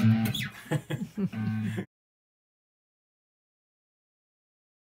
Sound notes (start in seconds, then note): 0.5 laughter